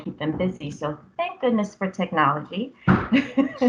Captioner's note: laughs